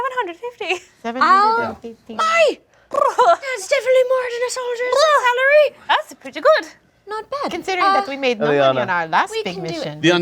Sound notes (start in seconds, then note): 2.6 lips trilling